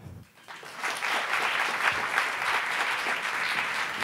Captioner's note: applauding